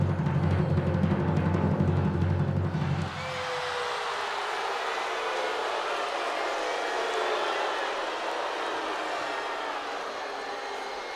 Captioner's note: crowd cheering